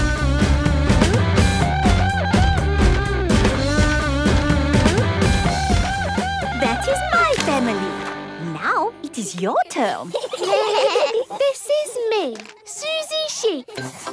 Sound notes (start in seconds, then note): 0.3 upbeat rock music; 9.8 children giggling